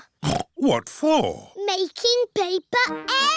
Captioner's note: snorts